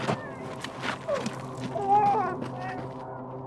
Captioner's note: baby’s cries continue